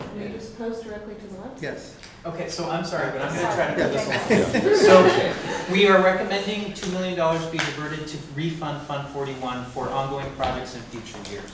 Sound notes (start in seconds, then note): 3.8 laughter